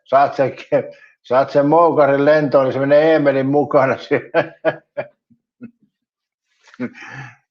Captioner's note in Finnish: naurua